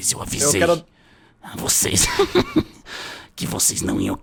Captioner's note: laughs